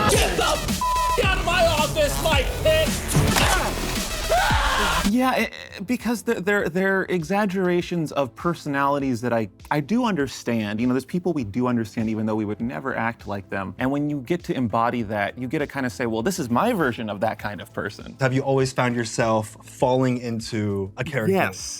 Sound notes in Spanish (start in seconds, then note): 3.3 gruñidos; 4.2 gritos